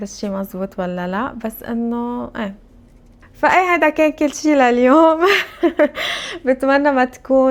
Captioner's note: laughs